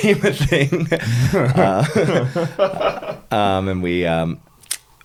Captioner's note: laughing